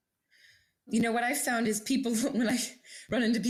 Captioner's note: chuckling